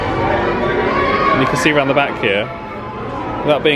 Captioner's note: none